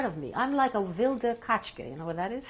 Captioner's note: non-english